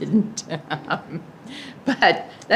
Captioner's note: laughs